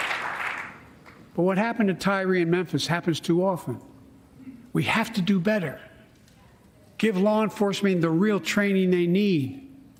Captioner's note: cheers and applause